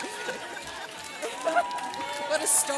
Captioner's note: everyone laughs